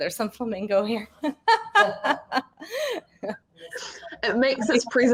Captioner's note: woman laughing